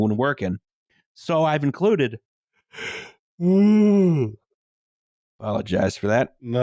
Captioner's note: yaaaawns